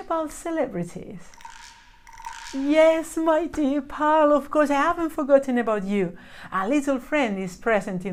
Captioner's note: frog croaks